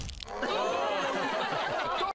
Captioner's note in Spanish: risas